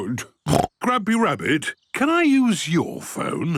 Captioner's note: snorts